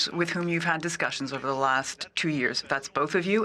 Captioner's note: speaking French